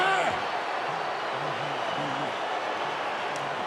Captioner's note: Edge grunts